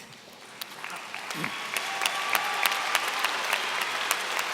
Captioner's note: applause